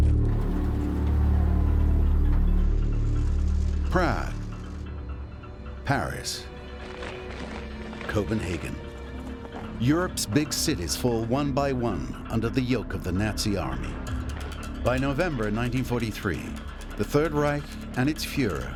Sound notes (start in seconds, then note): 0.0 troops marching; 0.3 cars rumbling; 5.9 troops marching